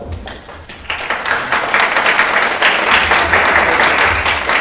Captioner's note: audience whooping; applauding